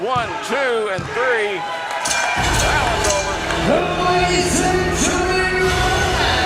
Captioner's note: crowd cheering; bell ringing; rock music begins